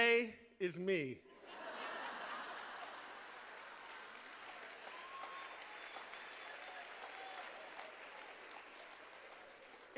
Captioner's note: laughter